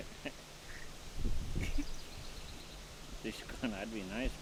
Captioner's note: chuckling